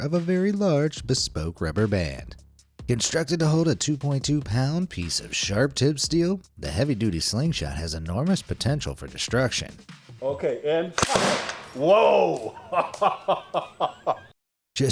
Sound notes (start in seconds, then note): 11.0 slingshot shoots; 12.4 laughs